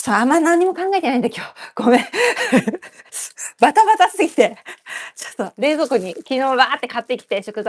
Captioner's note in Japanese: 笑い